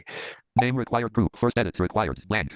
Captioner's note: computer generated voice